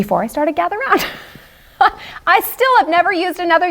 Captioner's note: laughing